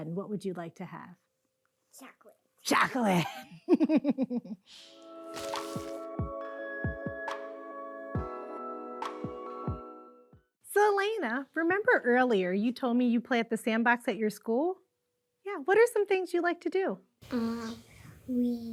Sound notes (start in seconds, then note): 3.0 laughing; 4.8 calm music